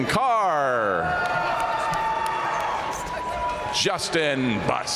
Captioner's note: audience cheering and applauding